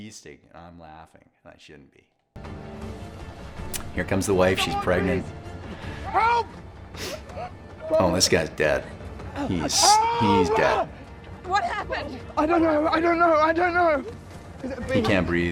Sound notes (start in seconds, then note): 2.6 intense music; 7.2 Lord Bridgerton gasping intensely